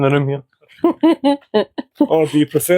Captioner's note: unicorn laughs